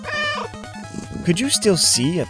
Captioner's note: meow